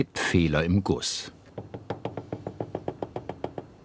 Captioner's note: hammering